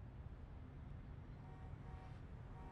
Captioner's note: car honking